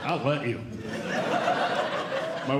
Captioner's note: audience Laughing